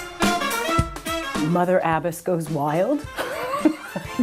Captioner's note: laughs